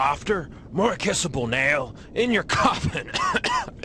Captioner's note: coughing; coughing and clearing throat